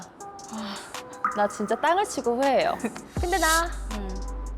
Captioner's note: feeling-bitter sound effect